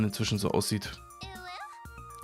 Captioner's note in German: uwu sound